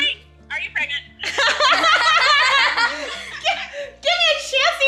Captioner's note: family laughs